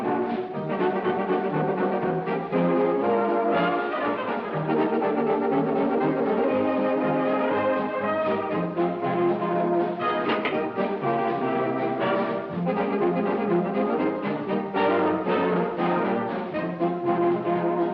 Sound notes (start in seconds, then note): 0.1 upbeat jazz music continues; 10.2 door clicks; 13.8 upbeat jazz music continues